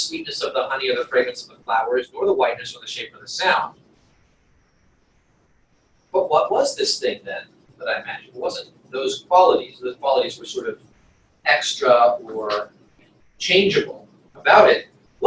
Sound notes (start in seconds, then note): 6.0 pause